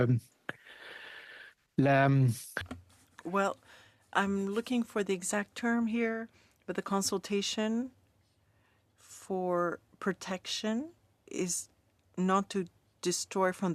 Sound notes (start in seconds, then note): 4.8 speaking French